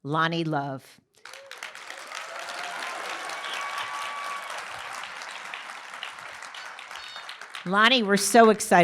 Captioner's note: applause